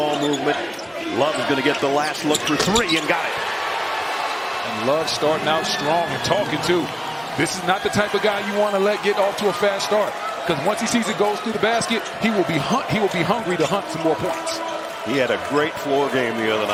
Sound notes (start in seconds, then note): 3.0 cheers and applause